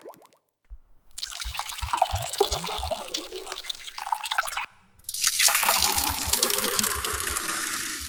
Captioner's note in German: Gießgeräusch